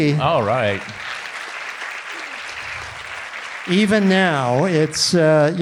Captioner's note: audience applauding